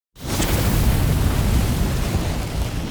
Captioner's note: fire roars